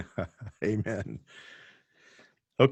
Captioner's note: laughing